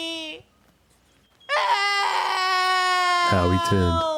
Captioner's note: shrieking; Howie wildly crying